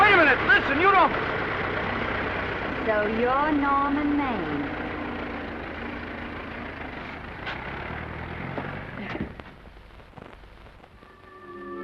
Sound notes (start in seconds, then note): 1.4 car rumbles away; 4.5 car rumbles away; 11.0 whimsical music